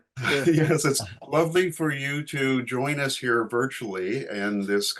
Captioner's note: chuckling